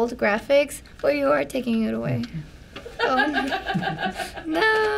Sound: FBE laughs

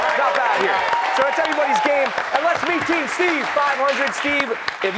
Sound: cheers and applause

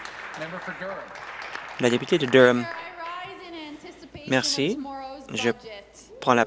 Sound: some Applause

